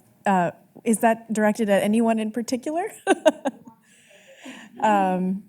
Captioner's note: laughs